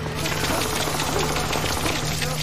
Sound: scuttling

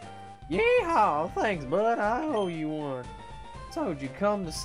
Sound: southern accent

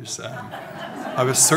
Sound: audience laughing

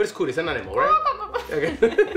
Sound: laughs; clucks like a chicken

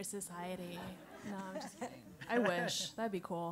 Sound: laugh

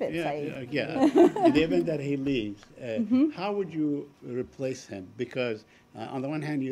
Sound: laughter

